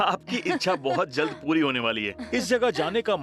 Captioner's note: laughs